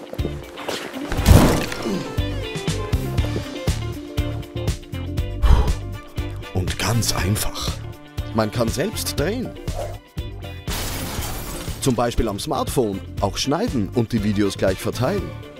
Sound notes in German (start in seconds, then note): 1.2 boom!; 10.7 crash!